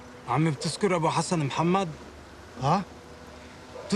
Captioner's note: omar and abdul-basir converse in arabic